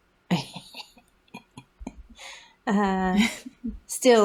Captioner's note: laugh